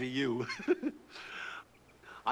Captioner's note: chuckles